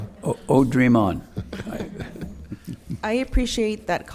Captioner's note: chuckles